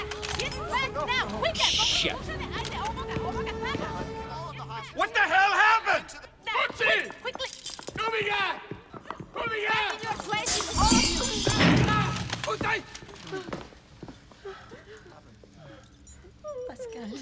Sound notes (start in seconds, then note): 7.8 shouting orders